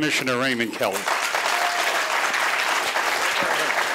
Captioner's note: applause